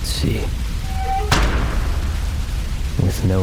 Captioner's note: metal hatch slams shut